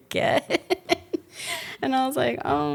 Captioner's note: laughs